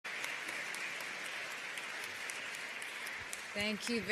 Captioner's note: applause